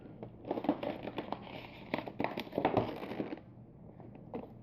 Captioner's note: creaking plastic sound